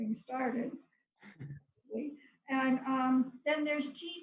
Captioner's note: laughs